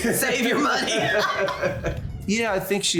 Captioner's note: laughter